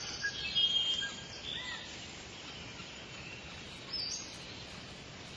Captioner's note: birds cawing and chirping